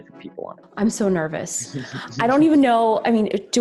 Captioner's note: chuckling